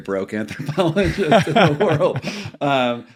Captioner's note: laughing